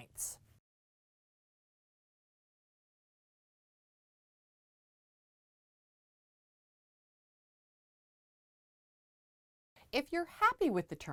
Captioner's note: no Sound Present